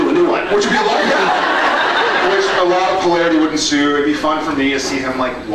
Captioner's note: laughs